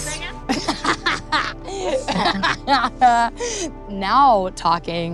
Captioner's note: laughs